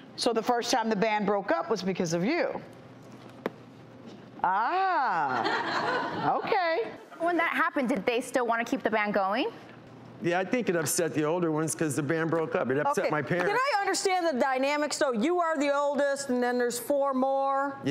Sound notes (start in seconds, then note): 5.2 crowd laughing